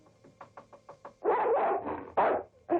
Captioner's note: knocking; dog barking